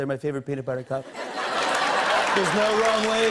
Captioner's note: laughter and applause